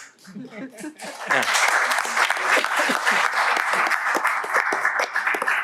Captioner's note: applause